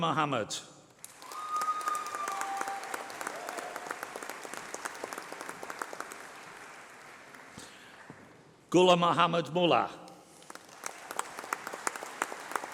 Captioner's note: applause